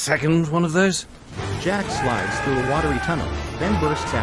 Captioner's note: yells